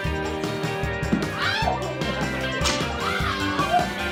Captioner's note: thwack